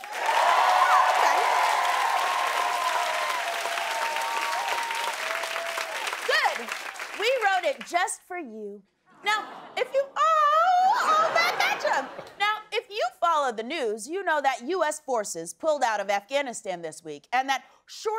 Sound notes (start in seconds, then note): 0.0 cheers and applause; 9.4 audience awws